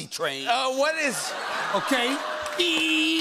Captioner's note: laughter